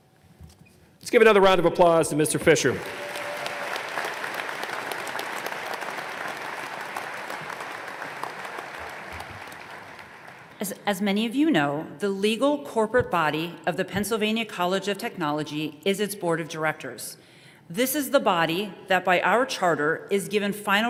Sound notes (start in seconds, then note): 4.4 applause